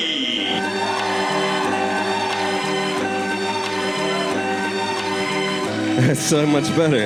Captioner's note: audience cheering